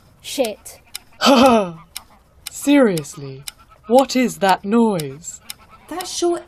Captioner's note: laughs, tersely